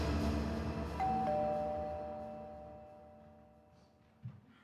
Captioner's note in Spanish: Timbre de la puerta